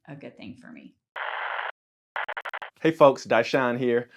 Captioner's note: TV static